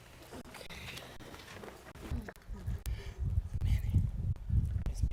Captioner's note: board chatting quietly